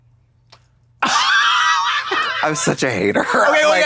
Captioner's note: Katya creaks